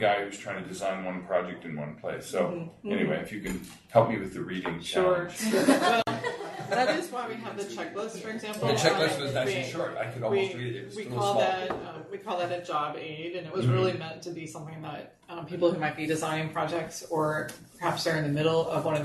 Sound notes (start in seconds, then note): 5.3 group laughing